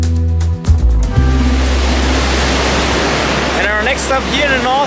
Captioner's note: water crashing